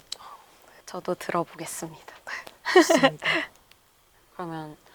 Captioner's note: laughs